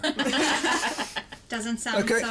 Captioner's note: laughter